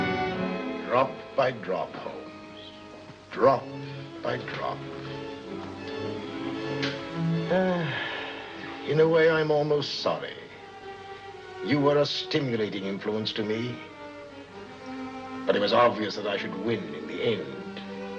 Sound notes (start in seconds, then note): 7.1 sighs; 18.0 suspenseful music